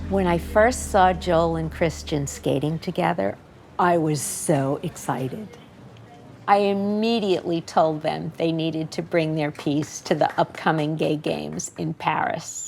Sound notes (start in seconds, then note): 9.5 applauding